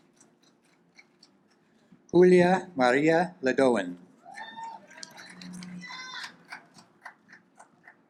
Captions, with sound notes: Julia Maria Leguen, (audience applauds)